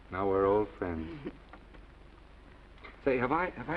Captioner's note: Esther laughs